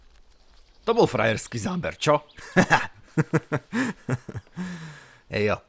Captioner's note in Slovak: smiech